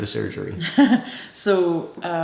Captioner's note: Wyatt's mother laughs